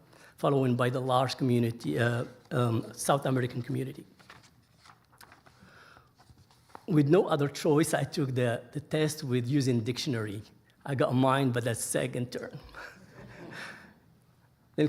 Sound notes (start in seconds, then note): 4.0 pages rustling; 13.1 audience laughing